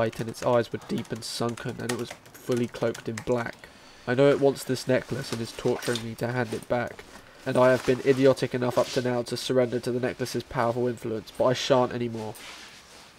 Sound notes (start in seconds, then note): none